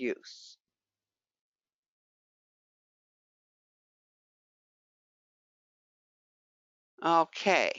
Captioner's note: 5 seconds pause